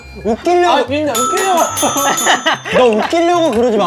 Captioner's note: ding ding ding ding